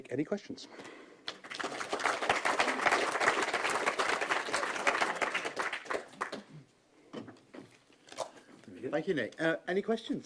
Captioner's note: applause